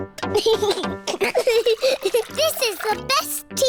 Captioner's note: giggles